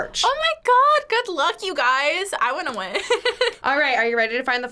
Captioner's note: laughs